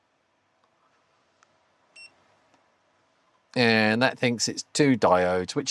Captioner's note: beeps